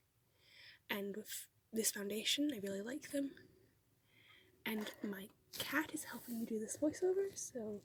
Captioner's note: rustling